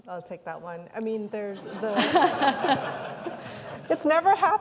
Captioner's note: everyone laughing